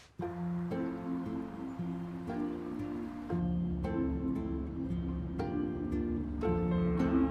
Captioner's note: engine rumbling; gentle music